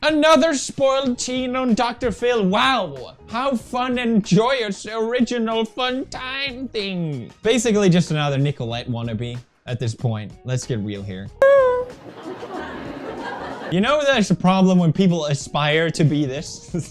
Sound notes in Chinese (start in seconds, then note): 11.4 哭哭